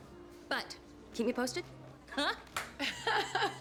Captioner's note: chuckling